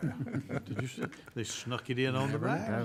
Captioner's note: laughing